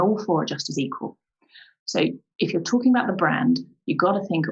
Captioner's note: none